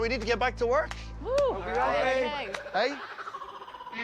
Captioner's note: whoops